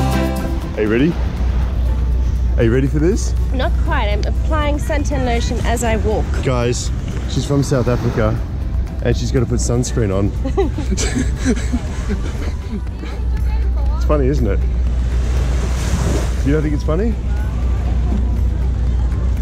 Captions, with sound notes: Are you ready, are you ready for this? - Not quite, I'm applying suntan lotion as I walk. - Guys, she's from South Africa, and she's gonna put sunscreen on. (laughing) It's funny isn't it. (waves crashing) You don't think it's funny?